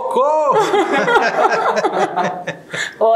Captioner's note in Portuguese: risos